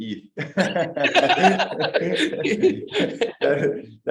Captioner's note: laughter